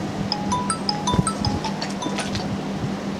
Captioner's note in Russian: раздается назойливый звонок телефона